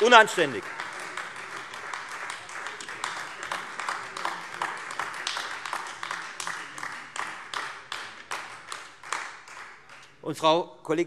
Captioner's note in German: Beifall Freie Demokraten und AfD